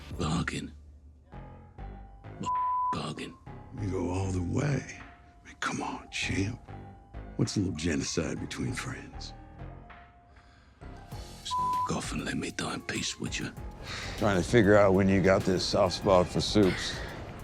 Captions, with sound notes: - Bargain? What (beep) bargain? - You go all the way. Come on, champ. What's a little genocide between friends? - Just (beep) off and let me die in peace, would ya? - Trying to figure out when you got this soft spot for supes.